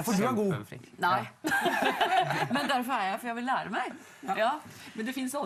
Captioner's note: laughs